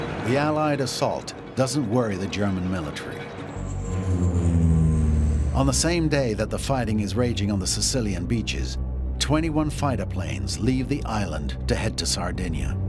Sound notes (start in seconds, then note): 3.6 airplane taking off